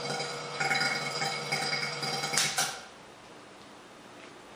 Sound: sound of pump being switched off

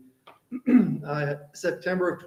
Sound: clears throat

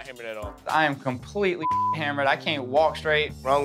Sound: beep

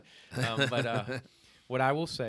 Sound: laughter

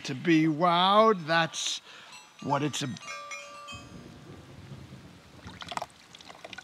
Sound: bells chiming

